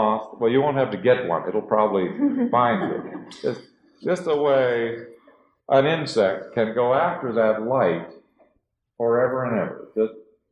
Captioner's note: laughter